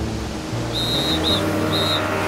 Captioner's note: whistle blowing